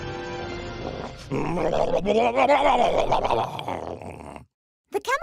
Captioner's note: roars